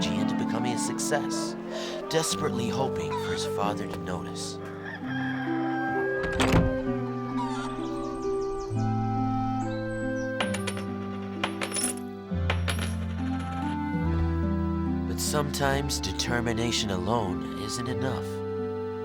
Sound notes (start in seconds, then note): 4.7 rooster crowing; 6.6 somber music